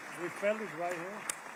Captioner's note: applause